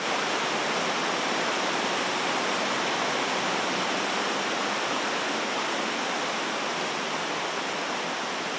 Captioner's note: rushing water sound